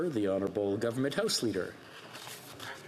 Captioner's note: speaking French